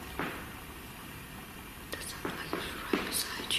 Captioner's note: tapping